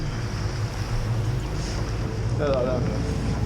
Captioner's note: boat engine revving